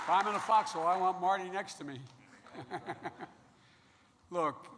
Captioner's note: laughs